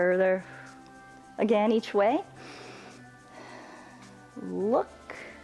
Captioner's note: inhales and exhales